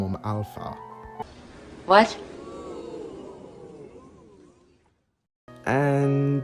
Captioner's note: crowd "oohing"